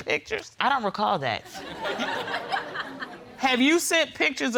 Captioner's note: audience laughs